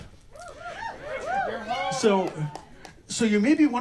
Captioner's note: whoops from audience